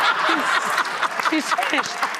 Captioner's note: laughter